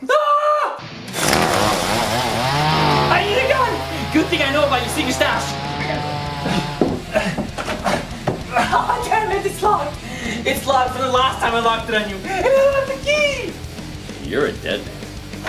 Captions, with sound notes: AHHHHHH! (Nerf Brainsaw ROARS) I need a Nerf gun! Good thing I know about your secret Nerf arsenal! Damn it, it's locked! It's locked from the last time I locked it on you. And I don't have the key! You're a dead man.